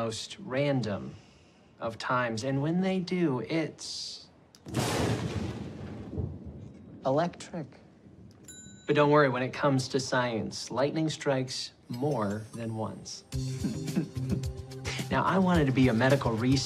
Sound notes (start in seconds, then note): 6.5 thunder cracks; 8.4 bell dings; 13.4 chuckles